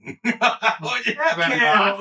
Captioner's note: laughing